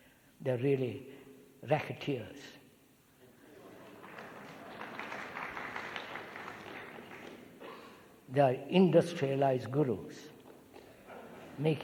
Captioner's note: clapping